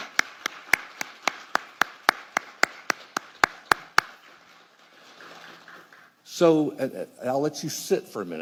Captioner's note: applause